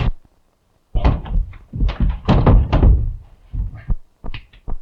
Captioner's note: blows thudding